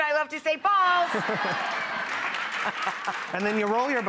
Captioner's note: audience laughing and clapping